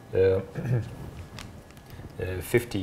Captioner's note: clears throat